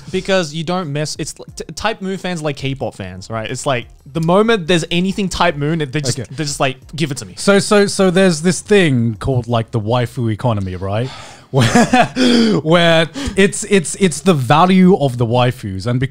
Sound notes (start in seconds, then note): 10.6 gasping; 11.6 chuckling